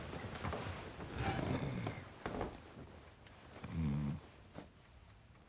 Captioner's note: snoring continues